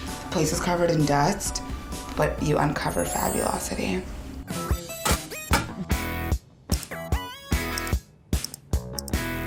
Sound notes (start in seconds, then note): 4.5 upbeat music; 5.7 clicking